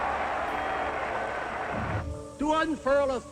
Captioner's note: crowd roars